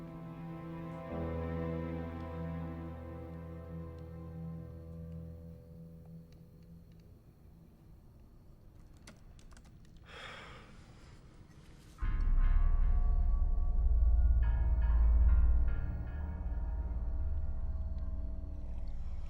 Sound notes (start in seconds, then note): 7.0 keyboard typing; 12.0 eerie music